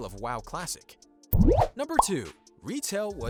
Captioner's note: bubble popping sound